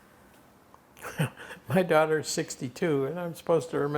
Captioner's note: laughing